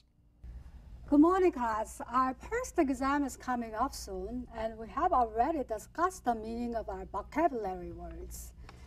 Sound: with heavy Korean accent

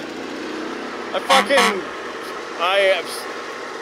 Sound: horn honks

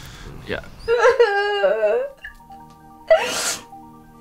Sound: sobbing

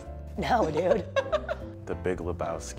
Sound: laughter

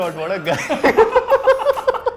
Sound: both laugh

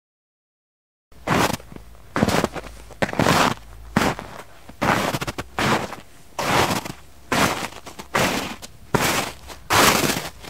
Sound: sound of footsteps

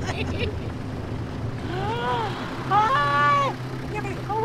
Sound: laughter; gasps

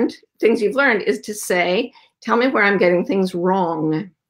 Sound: none

